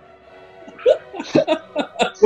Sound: laughter

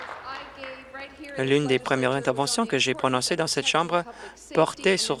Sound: applause

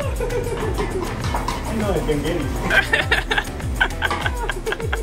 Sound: laughs

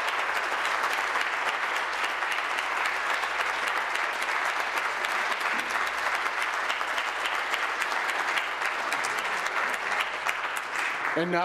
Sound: applause

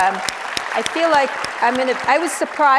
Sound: audience applauds

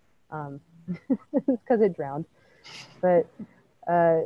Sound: laughs

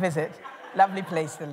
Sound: laughter

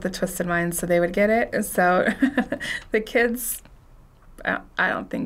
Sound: chuckles

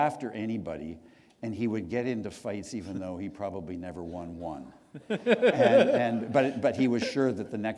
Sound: chuckle

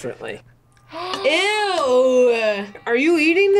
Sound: gasps

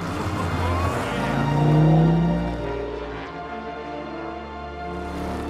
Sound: engine revving

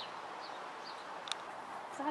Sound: camera clicks

